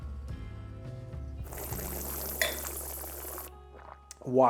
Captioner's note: slurps